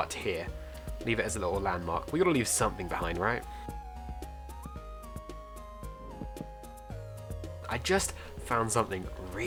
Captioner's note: block placing